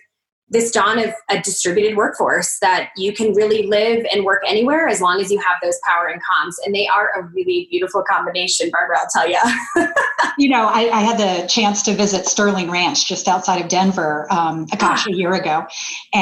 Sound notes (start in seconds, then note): 9.4 laughing